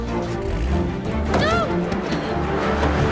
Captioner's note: engine starts